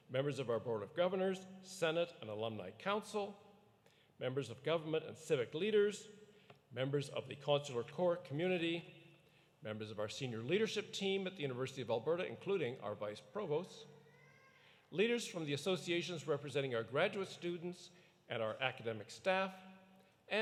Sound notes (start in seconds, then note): none